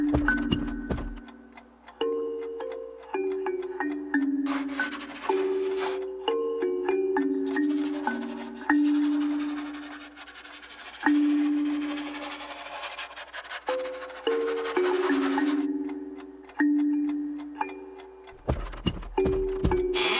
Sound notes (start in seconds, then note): 0.0 footsteps plodding; 0.2 clock ticking; 4.4 brush rasping; 4.6 pensive music continues; 18.3 footsteps plodding